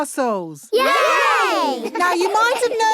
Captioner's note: laughing